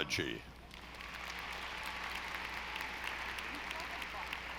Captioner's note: audience applauding